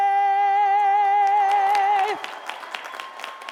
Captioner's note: applause